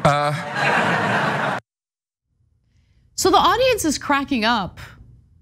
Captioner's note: laugh